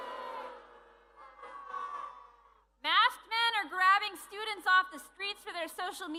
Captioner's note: booing